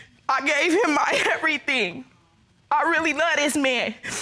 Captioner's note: sobbing